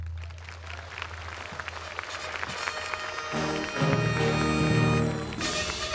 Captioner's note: applause